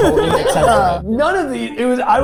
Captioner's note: group laughing